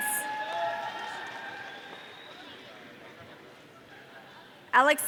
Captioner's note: audience cheering